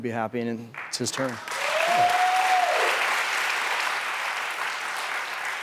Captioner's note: audience claps and cheers